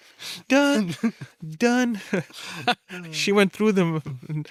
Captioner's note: laughs